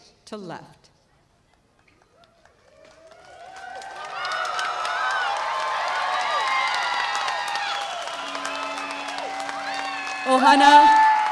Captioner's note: applause